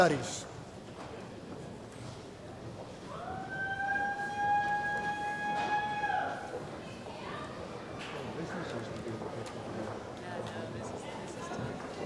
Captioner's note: cheering